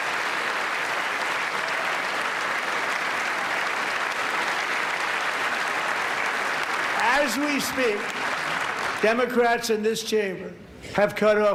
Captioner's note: applause